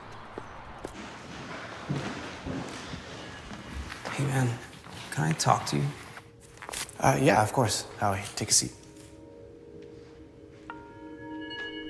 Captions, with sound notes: [echoes, rustling] Hey, man, can I talk to you? Yeah, of course, Howie. I'll take a seat.